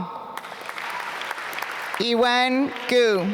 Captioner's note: applause